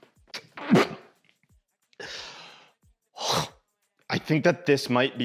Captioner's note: retches